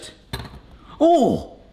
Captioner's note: egg cracks; suddenly gasps